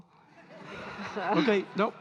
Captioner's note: audience laughing